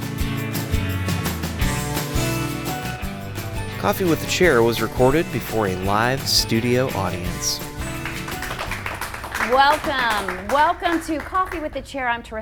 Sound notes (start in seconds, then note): 0.1 upbeat music; 8.3 audience applauding